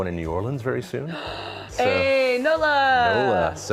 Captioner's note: gasps